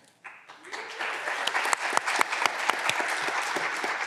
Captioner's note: clapping continues